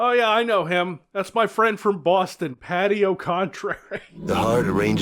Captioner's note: giggles